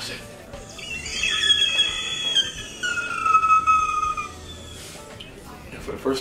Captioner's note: soft high-pitched screaming